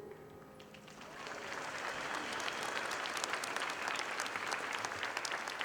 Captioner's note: audience applauding